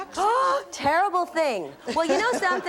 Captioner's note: gasps